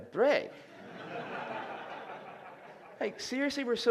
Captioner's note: laughter